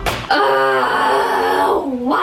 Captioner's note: frustrated sigh